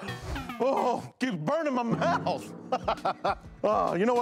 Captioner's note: laughs